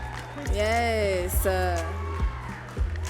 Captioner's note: audience cheering and clapping